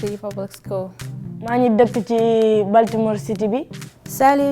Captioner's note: speaking Anuak; speaking Wolof